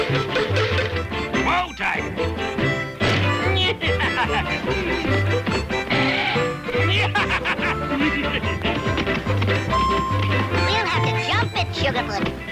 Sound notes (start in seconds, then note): 0.1 hooves squealing; 5.9 laughs maniacally; 7.5 hooves squeal; 8.5 laughs manically; 10.5 hooves racing